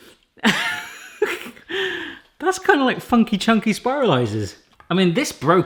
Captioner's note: laughs